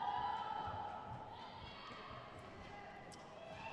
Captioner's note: crowd cheers